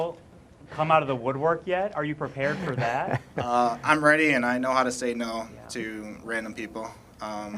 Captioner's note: laughter